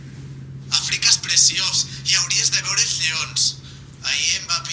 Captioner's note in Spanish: habla lluís por el móvil